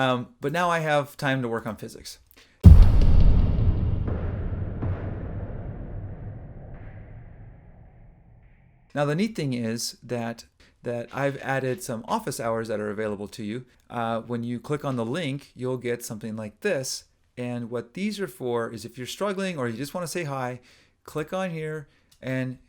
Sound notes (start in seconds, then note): 5.4 explodes